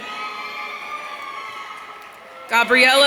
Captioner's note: audience cheering